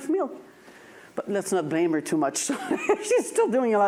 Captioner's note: laughs